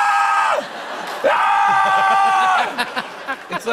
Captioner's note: screaming